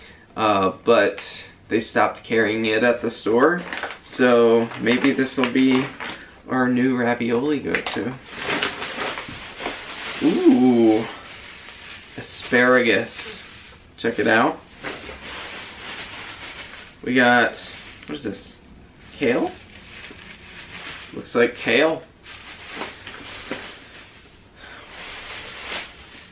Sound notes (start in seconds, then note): 8.4 plastic crinkling; 14.6 plastic crinkling; 22.6 plastic crinkling